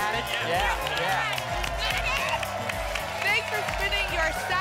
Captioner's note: applause and cheering cont